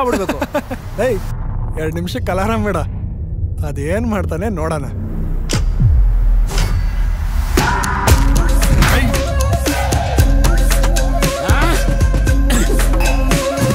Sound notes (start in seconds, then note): 11.3 huhh!